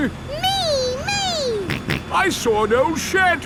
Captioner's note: snorts